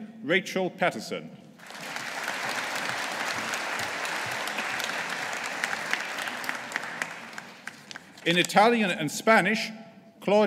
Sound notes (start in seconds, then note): 1.6 audience applauding